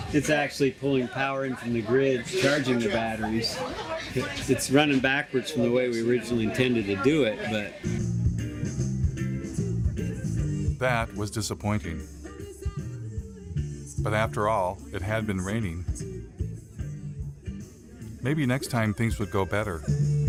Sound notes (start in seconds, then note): 3.8 arka plan konuşması; 13.5 Şarkı söyleme